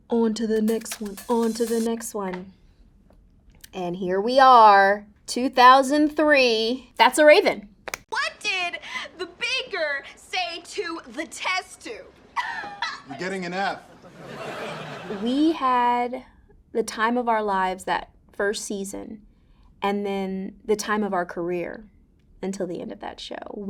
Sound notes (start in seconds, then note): 13.7 audience laughing